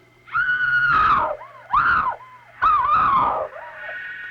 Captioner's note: shrieking